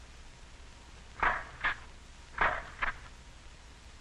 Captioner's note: machine snapping